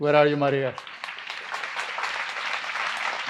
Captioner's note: applause